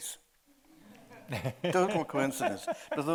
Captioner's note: audience chuckling; chuckling